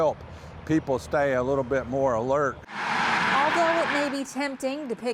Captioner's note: nat Sound: cars on roadway